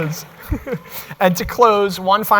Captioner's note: laughter